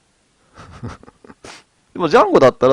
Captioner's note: laughs